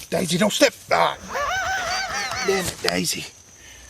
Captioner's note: laughing